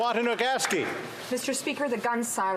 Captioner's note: applause